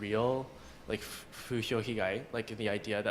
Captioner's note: japanese